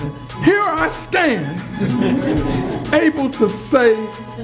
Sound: crowd laughs

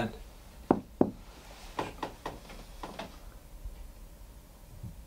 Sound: knocks on ceiling

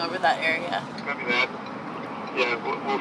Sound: man On Radio

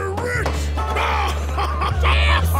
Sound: laughing

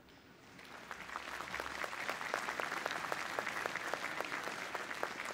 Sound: applause

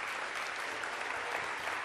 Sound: audience applause

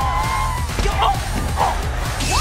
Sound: screaming

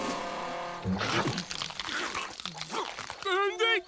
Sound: chewing

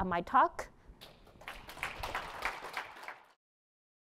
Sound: applause

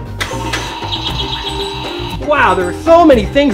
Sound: birds chirping

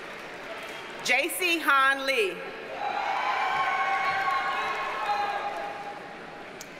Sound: audience cheers and applauds

